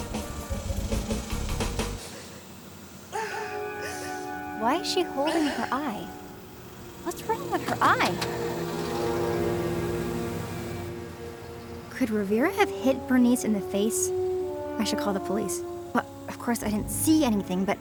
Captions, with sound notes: (Bernice sobs) Why is she holding her eye? What's wrong with her eye? Could Rovira have hit Bernice in the face? I should call the police. But of course I didn't see anything.